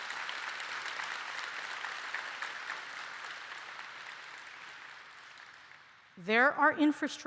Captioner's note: applause